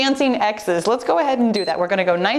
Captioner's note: timer beeps